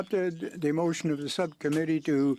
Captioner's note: speaking french